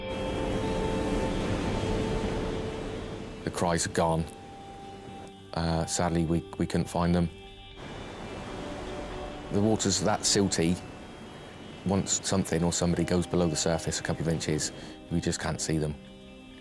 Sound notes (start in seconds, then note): 0.0 gentle music; 0.0 waves roaring; 7.9 waves roaring